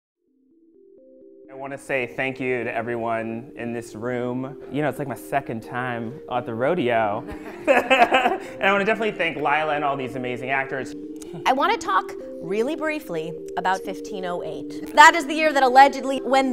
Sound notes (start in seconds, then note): 7.2 laughter